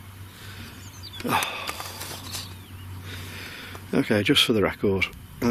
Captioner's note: sighing